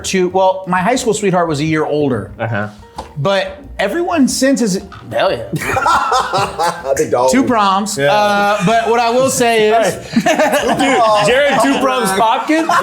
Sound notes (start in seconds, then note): 5.5 laughing